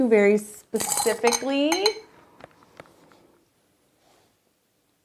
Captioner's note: brushes clanking